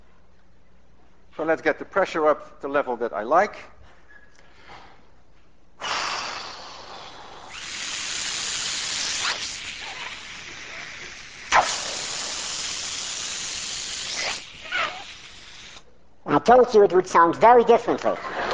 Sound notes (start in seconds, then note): 5.8 exhaling; 5.8 helium hissing from hose; 8.3 inhales; 11.3 helium hissing again; 13.3 inhales again; 15.3 in very high voice; 18.2 class laughs and applauds